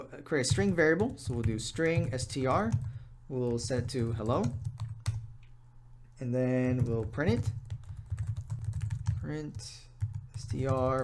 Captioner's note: typing